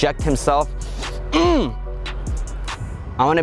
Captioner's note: grunts